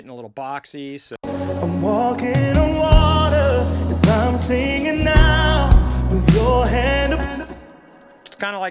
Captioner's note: vocal with width processing